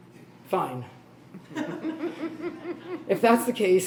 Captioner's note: laughs